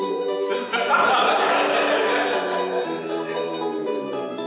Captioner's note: laughter